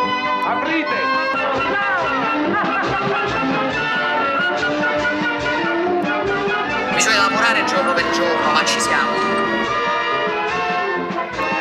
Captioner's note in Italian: Applauso